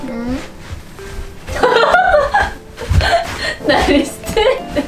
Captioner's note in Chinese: 爆笑